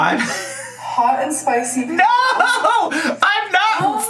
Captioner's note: laughs